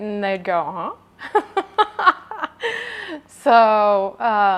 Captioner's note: laughing